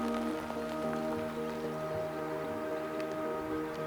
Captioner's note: birdsong